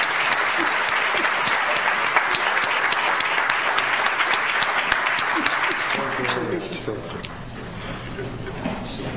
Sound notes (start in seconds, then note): 0.0 audience applauds